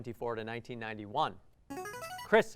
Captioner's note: buzzer